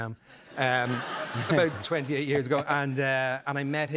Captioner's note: laughter